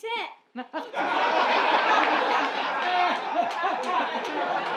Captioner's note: laughter